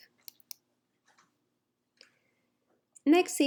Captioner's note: mouse clicking